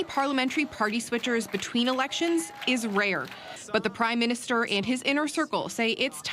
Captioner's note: applause